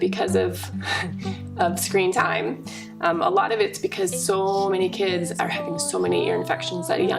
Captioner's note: laughs